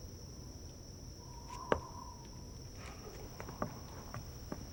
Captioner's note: air whistling